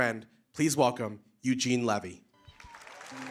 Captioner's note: applause